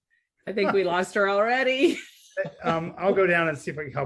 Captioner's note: laughs